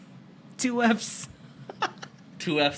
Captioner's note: giggles